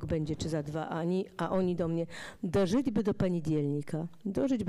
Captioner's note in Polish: fraza po rosyjsku